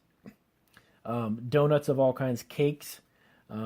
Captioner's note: clears throat